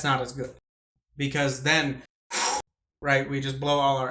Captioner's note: powerful Exhale